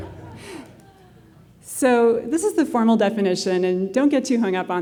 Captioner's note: laughter